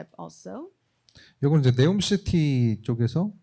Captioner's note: speaking korean